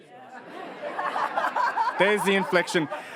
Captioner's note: audience laughs